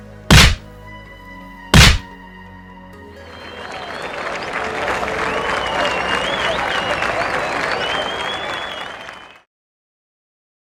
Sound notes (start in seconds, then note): 0.3 slap; 1.7 slap; 3.2 crazy applause